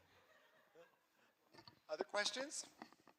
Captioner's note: laughter